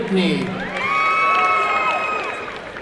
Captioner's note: applause and cheering